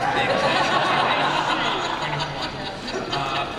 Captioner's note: laughter